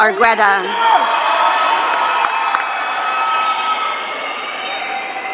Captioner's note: audience cheering